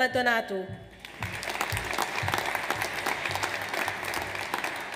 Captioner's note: audience applauds